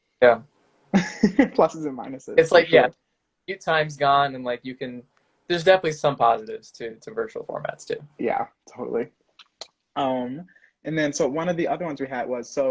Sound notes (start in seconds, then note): 1.0 laughing